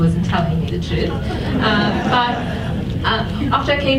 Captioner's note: audience laughs